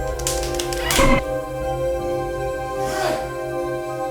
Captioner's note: slaps pop; Dominic yelps